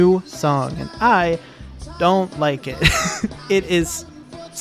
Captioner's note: chuckles